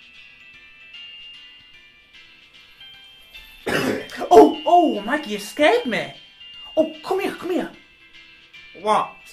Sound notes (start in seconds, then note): 3.6 cough